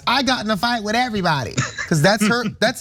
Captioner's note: laugh